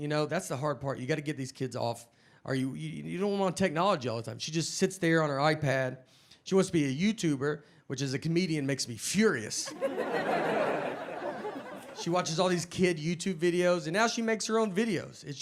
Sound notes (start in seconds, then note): 9.6 audience laughing